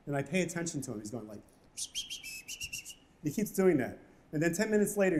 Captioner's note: whistling